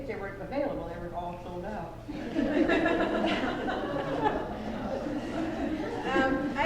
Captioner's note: laughter